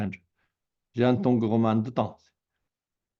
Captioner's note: tibetan